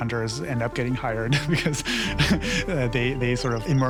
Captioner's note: laughs